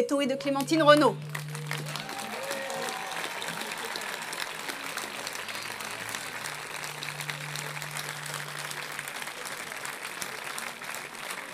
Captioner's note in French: Applaudissements